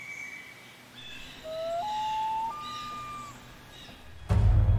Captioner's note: birds chirping; common Loon calls; wondrous orchestral music